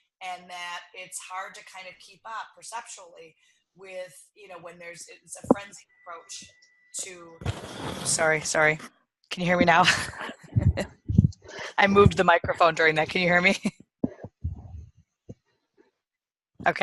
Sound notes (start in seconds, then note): 9.7 chuckles